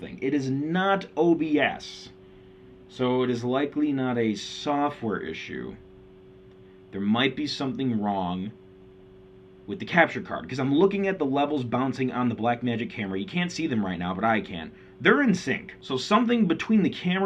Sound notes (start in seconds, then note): none